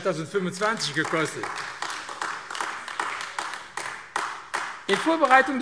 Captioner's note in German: Beifall AfD